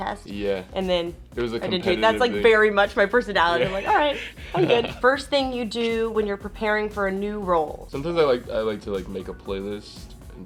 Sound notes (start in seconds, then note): 3.4 Justice laughs